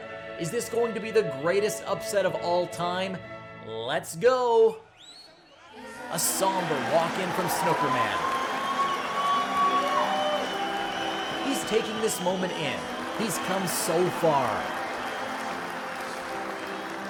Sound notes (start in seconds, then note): 7.1 audience cheers; 14.6 moody music